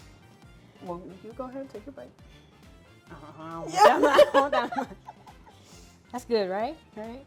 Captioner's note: laughs